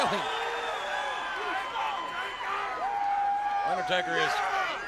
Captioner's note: crowd cheering